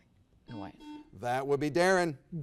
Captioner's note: buzzer beeps